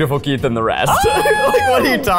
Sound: yelling

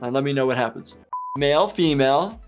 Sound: buzzer beeps

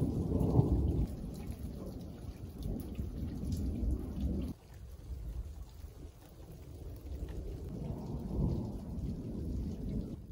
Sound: sound of the thunder rumbling

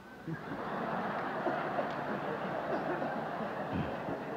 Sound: laughter

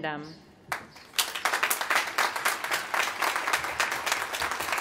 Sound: applause

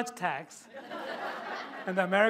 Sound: laughter

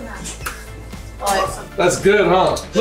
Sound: laughing

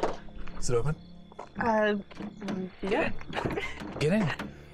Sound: chuckles

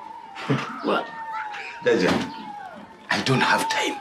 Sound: chuckles

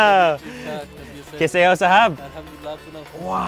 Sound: speaking in foreign language

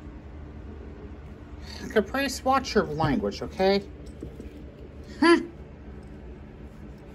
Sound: scoffs

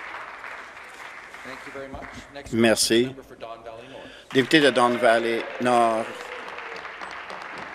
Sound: applause

